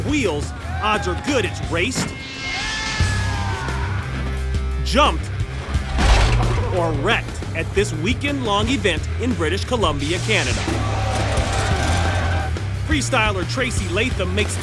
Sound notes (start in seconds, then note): 3.6 crowd cheers